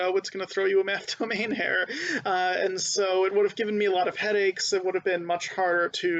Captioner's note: laughing